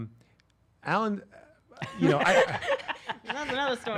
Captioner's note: laughing